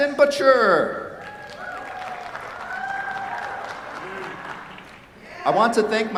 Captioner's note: cheers, applause